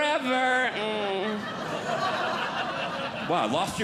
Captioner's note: audience Laughing